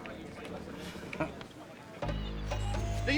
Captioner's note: chuckles